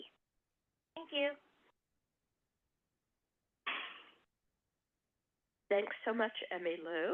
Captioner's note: silence